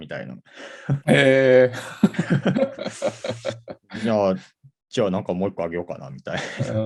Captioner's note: laugh